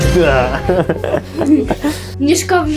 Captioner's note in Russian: смех